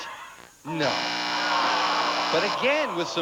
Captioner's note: buzzer sounds